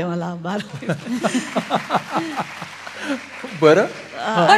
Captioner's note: laughter, applause